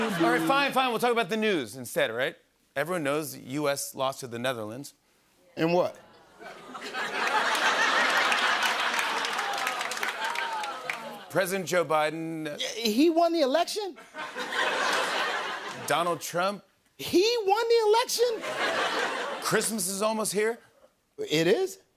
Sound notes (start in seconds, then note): 6.2 laughter; 7.3 applause; 14.0 laughter